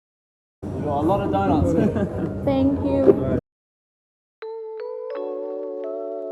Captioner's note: laughs in i'm secrelty judging u